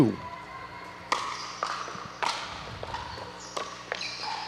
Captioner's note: ball bouncing